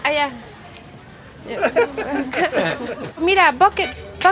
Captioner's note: laughter